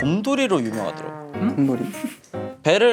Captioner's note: confused